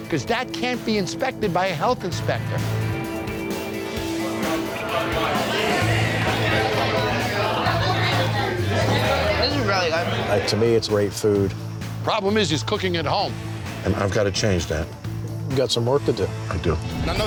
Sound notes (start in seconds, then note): 3.0 investigative music; 4.8 bar patrons talking in the background